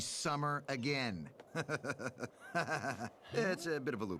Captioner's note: evil laughter